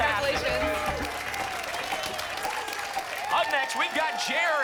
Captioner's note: applause and cheering